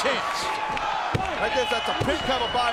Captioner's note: audience cheering